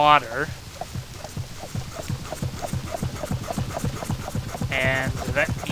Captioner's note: pumping noises